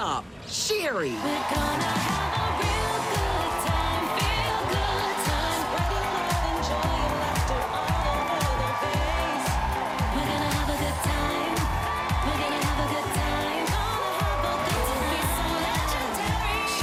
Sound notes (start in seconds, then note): 3.3 honking